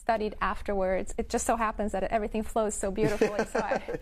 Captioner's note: laughs